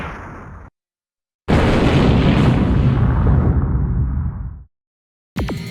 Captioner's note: explosion